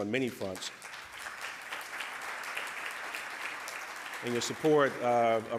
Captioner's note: audience applause